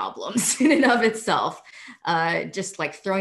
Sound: chuckling

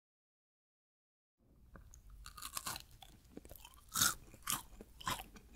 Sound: eating sound

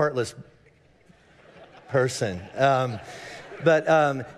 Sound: congregation laughing

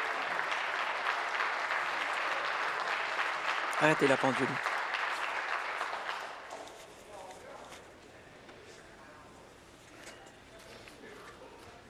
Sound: applause

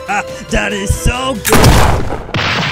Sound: gunshot

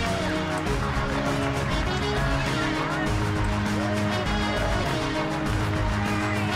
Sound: cheers and applause

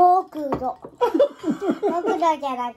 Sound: laughing

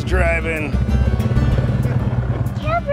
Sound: engine roaring

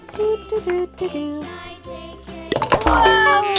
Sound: narrator makes playful noises

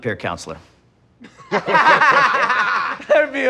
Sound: laughter

